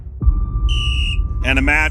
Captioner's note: game whistle